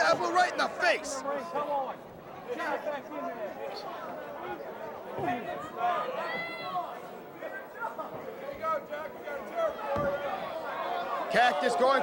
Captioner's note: crowd chatter